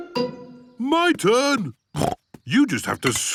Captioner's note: snorts